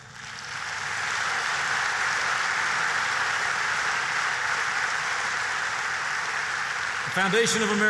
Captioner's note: applause